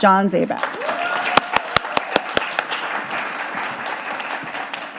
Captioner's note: audience applauding